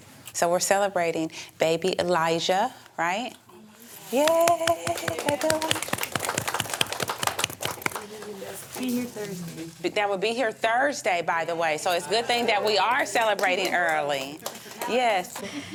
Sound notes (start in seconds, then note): 4.2 applause